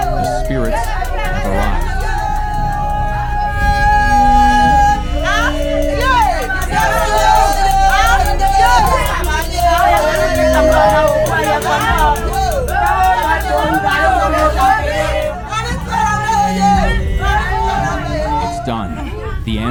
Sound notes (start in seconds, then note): 2.7 women chanting